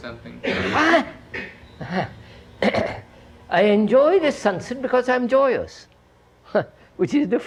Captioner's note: laughs